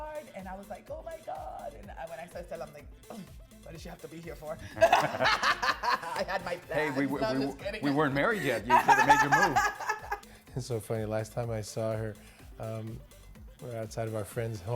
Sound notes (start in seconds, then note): 4.7 both laughing; 8.3 laughing